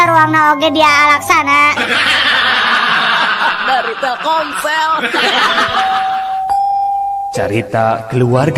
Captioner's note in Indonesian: tertawa